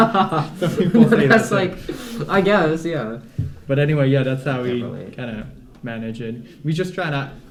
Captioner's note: laughter